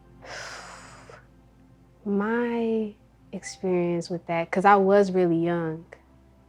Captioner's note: breathes out